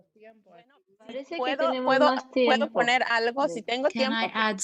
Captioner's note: speaking spanish